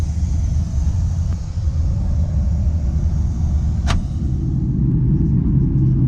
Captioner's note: airplane engine rumbles